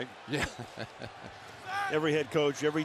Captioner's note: laughter